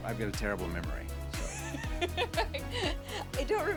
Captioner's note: laughing